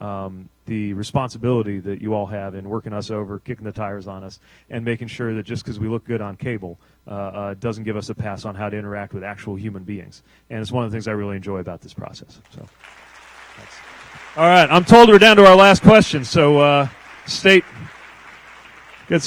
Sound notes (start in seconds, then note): 12.5 applause